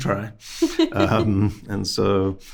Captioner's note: host laughing